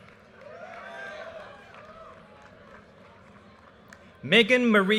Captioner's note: audience cheers and applause